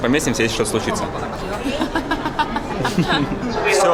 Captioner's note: laugh